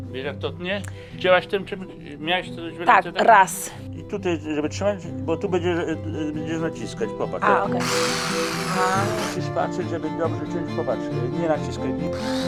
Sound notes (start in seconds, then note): 0.2 grandpa speaks foreign language; 3.0 speaks foreign language; 4.2 grandpa speaks foreign language; 7.7 tool whirring; 9.7 grandpa speaks foreign language